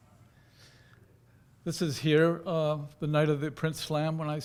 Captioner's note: none